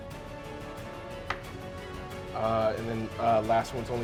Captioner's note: die rolling